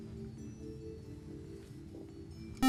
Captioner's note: beep